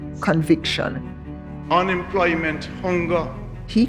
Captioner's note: soundbite of archived recording